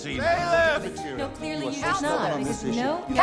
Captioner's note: both bickering